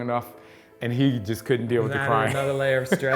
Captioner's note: laughs